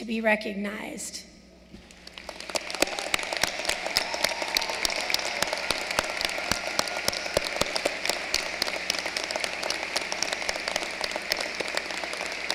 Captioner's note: applause